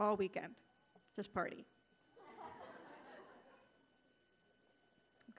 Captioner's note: audience laughing